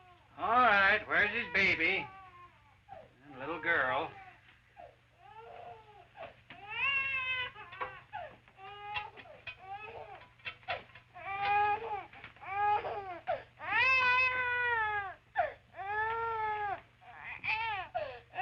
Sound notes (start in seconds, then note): 6.6 baby continues wailing